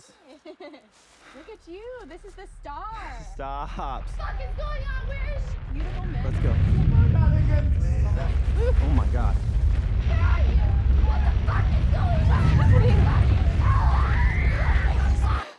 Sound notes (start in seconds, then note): 0.0 logan laughs; 6.7 low rumble; 11.4 screaming; 12.5 violent rumble